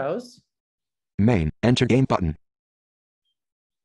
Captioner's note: voiceover